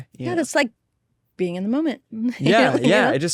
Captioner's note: laughs